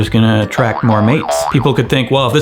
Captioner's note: cartoon bouncing sound